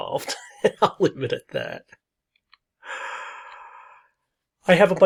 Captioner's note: laughs